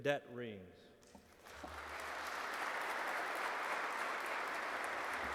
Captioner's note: audience clapping